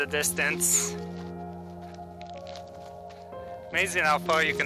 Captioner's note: ground crunching